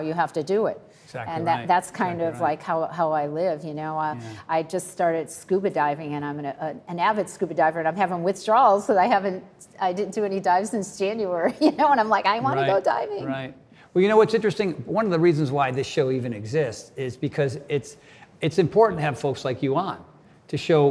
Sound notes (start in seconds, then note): 11.6 laughs